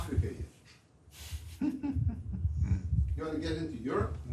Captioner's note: laughs